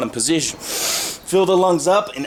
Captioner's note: gloriously inhales